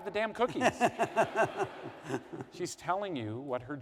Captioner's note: laughter